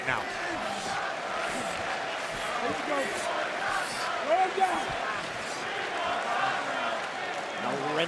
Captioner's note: crowd cheering